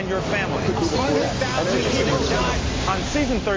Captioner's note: background chatter